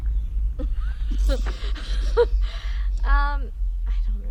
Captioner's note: both laughing